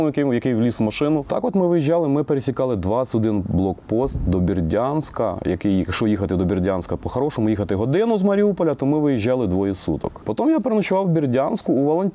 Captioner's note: russian